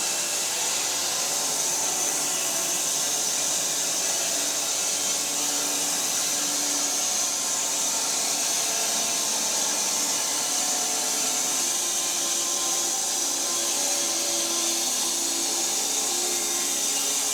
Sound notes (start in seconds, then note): 10.0 saw buzzing